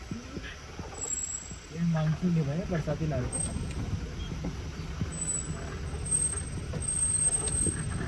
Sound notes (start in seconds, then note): 5.4 vehicle sliding in huge pit